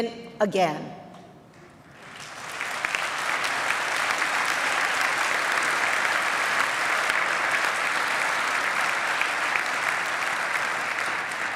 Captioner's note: applause